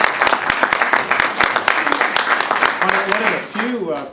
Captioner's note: applause